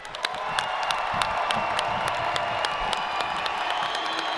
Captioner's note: audience cheering